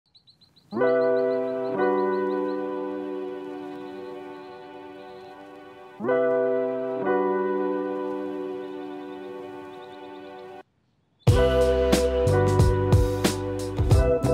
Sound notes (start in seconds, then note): 0.8 warm, upbeat, Introduction music plays; 2.8 sounds of birds in the distance